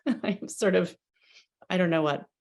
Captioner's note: chuckles